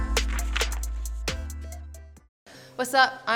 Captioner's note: upbeat music; pages flipping